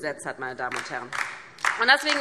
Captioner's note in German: Beifall DIE LINKE